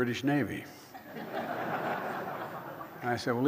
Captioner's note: laughter